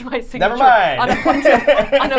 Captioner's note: laughter